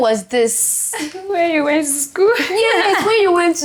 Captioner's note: laughs